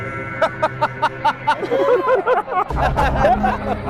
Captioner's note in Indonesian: tertawa